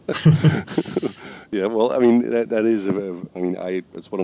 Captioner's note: laughs